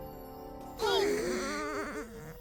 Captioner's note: all grunting; light music